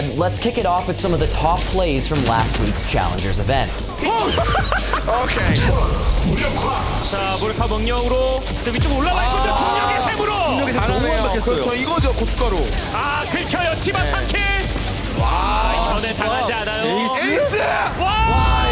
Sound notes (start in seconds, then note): 4.0 laughter; 12.5 gunshots